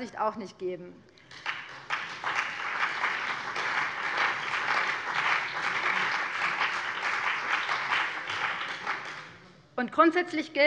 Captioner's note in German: Beifall BÜNDNIS 90/DIE GRÜNEN und vereinzelt CDU